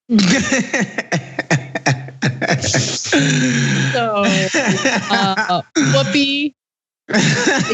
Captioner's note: laugh